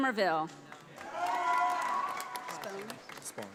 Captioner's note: audience applauding